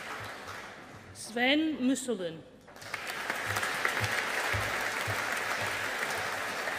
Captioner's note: audience applauding